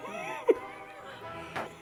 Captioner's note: laugh